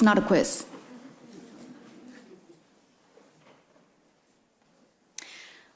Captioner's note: attendees chuckle